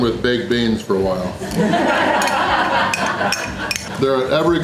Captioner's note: crowd laughter